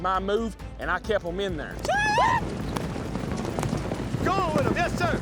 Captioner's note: shouting